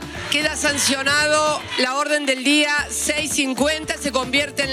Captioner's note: reporter speaking Spanish